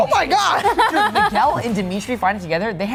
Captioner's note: laughs